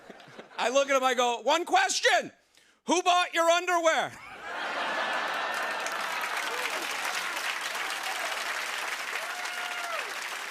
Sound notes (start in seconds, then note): 4.4 cheers and applause